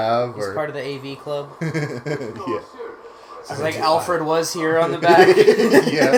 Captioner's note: laughing